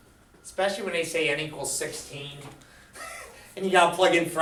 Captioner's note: laughs